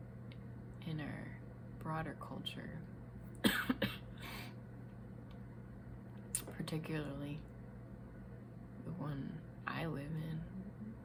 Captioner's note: cough